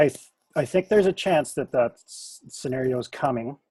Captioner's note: none